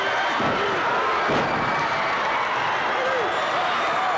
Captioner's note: audience cheering